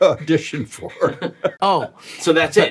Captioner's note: laughs